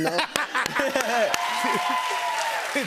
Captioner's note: cheers and applause